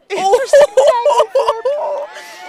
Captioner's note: laughter